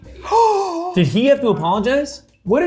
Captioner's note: gasping